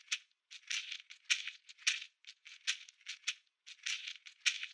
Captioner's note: Kachina rattle continues